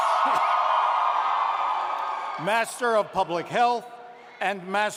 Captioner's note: cheers and applause